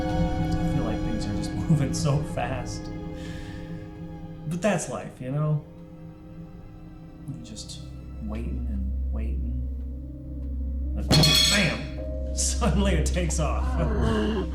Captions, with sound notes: - I feel like thing are just moving so fast. But that's life, you know? Just waiting, and waiting. And bam! (thumps table) Suddenly it takes off.